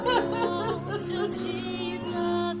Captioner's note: crying